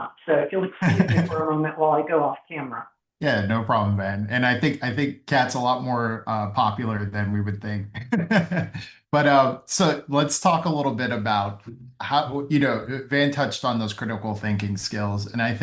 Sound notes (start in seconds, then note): 7.9 laughs